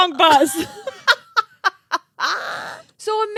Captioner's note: girls laughing